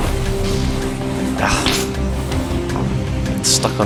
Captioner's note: sigh